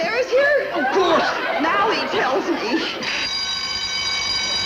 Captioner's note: fire alarm; audience laughing